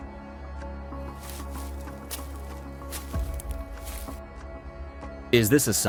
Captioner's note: leaves rustling